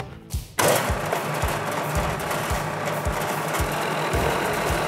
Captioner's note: drill whirring